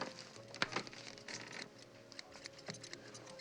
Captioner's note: scissors clacking